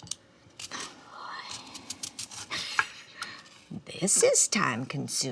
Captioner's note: Dory exhales